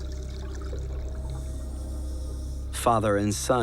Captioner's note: hissing of breathing apparatus